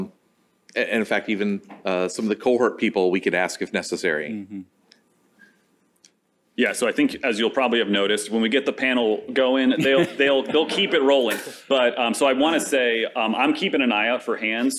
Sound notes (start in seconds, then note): 9.6 laughter